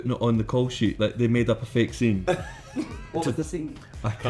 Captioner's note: laughing